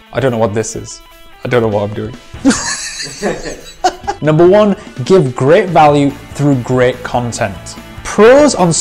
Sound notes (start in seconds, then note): 2.4 laughs